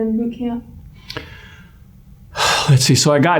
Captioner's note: sigh